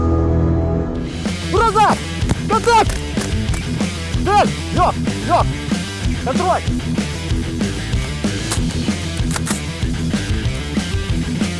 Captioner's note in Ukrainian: постріли